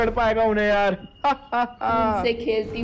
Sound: laughing

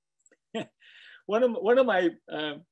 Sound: laughing

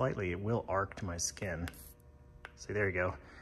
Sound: zaps

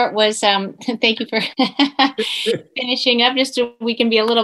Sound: laughs

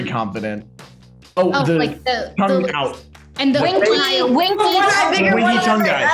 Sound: group mumbling in unison

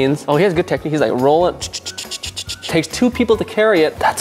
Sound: ticking noise

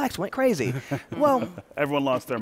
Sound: laughter

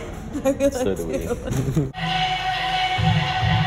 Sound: laughs; dance music

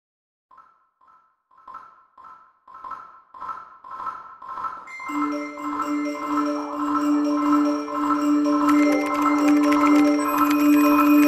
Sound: messenger sounds

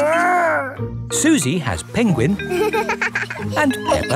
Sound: giggles

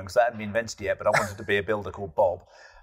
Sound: laughs

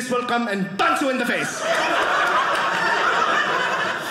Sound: audience laughing

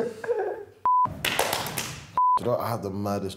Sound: clapping

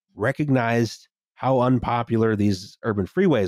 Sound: none

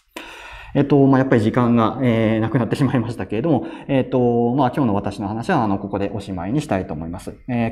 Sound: laughs

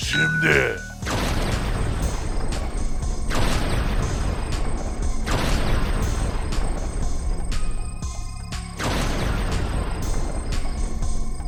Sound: machine voice

